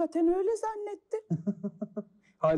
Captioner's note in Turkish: Gülüyor